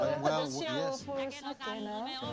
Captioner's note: chuckles